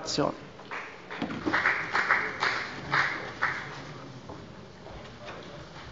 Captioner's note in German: Beifall bei der FDP